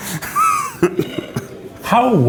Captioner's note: laughs